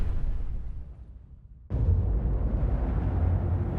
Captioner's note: deep rumble